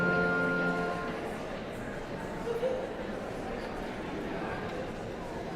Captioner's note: audience chattering continues